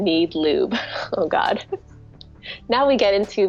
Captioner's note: laughs